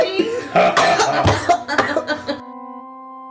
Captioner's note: Maklaw and Ping-Pong laughing; Laughter continues as Zyzzix coughs